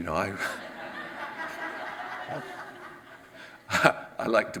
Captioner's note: audience laughs